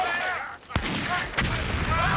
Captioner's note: gun firing; booming